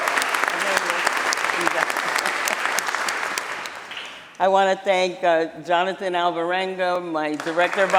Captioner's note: applause